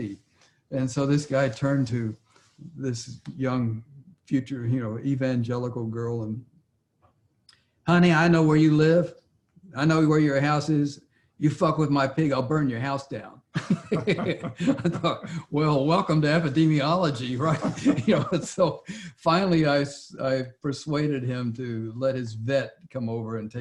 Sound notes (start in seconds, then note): 13.5 Larry and J.B. laughing